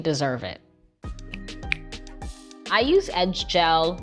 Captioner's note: fingers snap